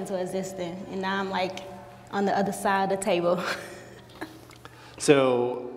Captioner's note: laughs